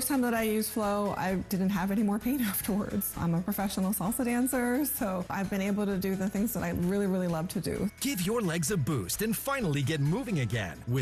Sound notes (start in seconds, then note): none